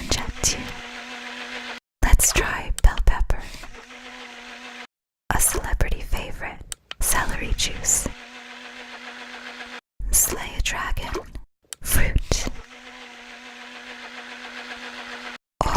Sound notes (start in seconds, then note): none